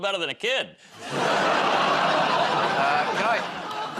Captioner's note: laughter